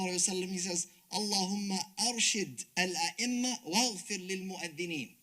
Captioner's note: speaks Arabic; speaks Arabic